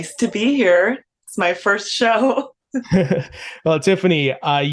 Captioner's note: chuckles